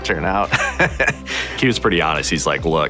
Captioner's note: laughing